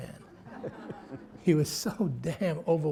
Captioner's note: laughter